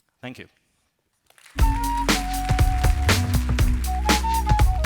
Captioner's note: applause